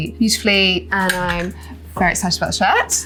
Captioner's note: hanger clanks